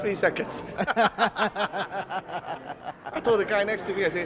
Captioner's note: laugh